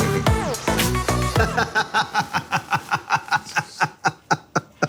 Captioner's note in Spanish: Carcajada